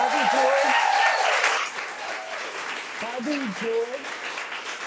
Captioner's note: audience cheering